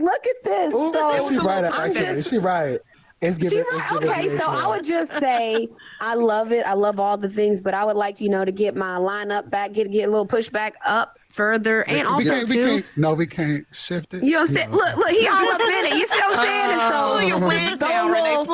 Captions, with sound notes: Look at this! (all chattering) - She right about that. She right. She right? Okay, so I would just say, I love it, I love all the things, but I would like to get my lineup back, get a little push back up further. And also too- - We can't, we can't? No, we can't shift it? - Y'all see, look, look, he all up in it. (panelists laughing) You see what I'm saying? And so go low- - Pull your wig down, Renee,